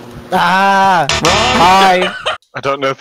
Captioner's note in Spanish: se ríe; voz de chico